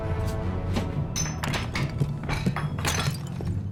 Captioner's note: ceramics shattering